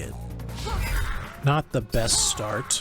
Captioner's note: grunts